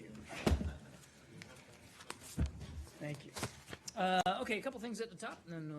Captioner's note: laughter